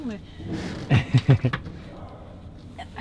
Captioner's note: laughs